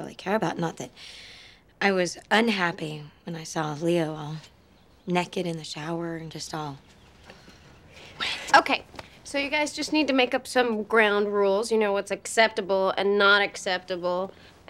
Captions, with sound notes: Not that I was unhappy when I saw Leo naked in the shower and just all-- (WHISPERING) --wet. OK. So you guys just need to make up some ground rules. You know-- what's acceptable and not acceptable, and--